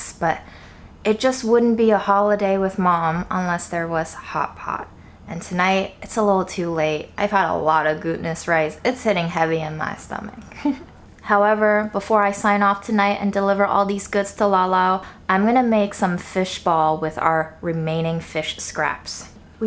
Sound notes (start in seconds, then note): 10.5 laughs